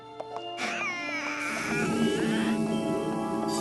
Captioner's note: creeeak!